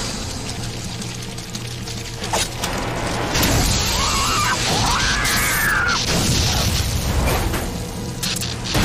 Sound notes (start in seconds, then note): 3.1 electric buzzing; 3.8 centipede squeals; 8.0 electric buzzing